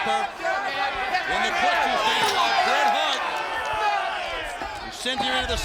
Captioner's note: audience cheering